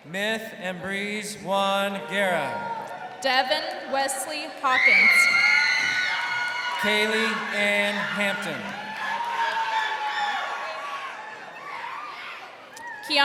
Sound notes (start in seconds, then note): 5.1 crowd cheering; 9.1 crowd cheering